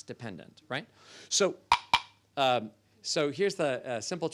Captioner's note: clinks cups